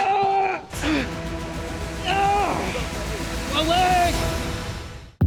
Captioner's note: groaning